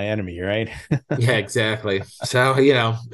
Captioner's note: laughs